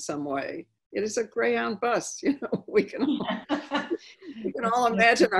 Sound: laughing

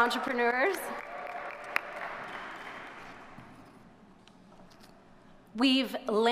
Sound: audience cheers and applauds

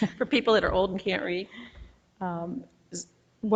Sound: laughs

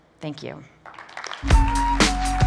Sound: applause

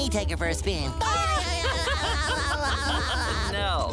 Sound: laughing

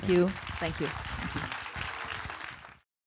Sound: audience applause

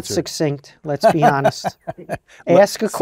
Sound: laugh

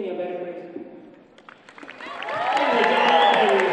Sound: applause

